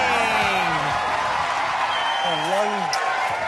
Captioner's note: cheering and applause